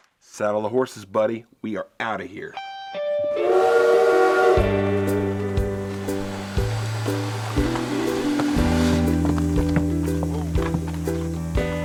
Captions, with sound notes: - Saddle the horses, buddy. We are outta here. (train horn blows) (electric guitar and piano music)